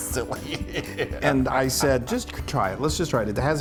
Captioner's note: laugh